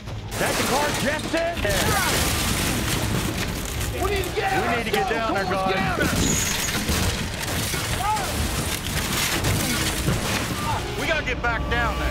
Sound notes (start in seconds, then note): 1.7 yelling; 6.3 crunching, shattering noises